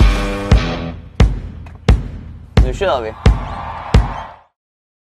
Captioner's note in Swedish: Applåder